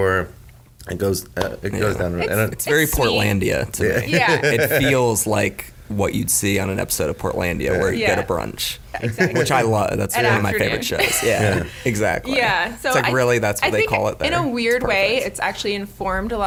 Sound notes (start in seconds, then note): 10.2 laughs